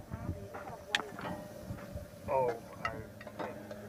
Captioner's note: gas stove hissing, background talking